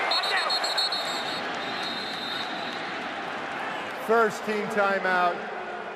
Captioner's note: whistle